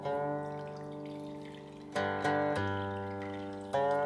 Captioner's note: water gurgling